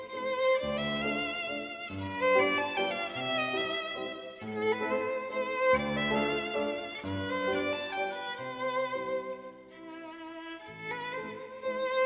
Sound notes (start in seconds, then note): none